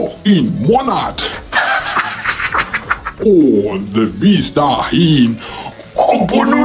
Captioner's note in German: lach